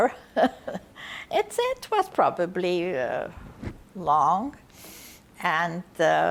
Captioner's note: laughing